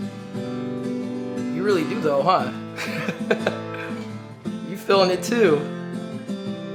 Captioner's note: haha